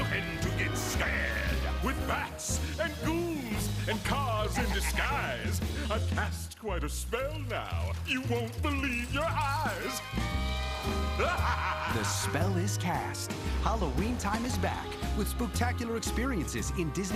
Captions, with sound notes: A magical place... that's lookin' to get scared! With bats...and ghouls... and cars in disguise. I've cast quite a spell now... you won't believe your eyes! (LAUGHTER) The spell is cast. Halloween Time is back with spook-tacular experiences